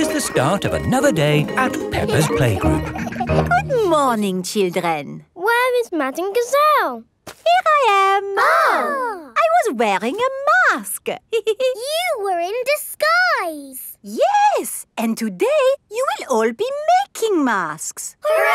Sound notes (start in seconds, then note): 8.2 exclaiming; 11.3 giggles